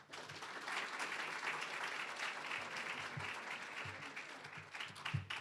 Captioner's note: applause